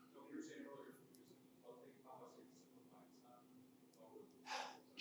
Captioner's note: speaker speaking faintly